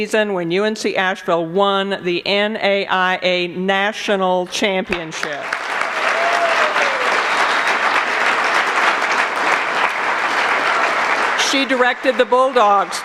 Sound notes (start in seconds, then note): 4.9 applause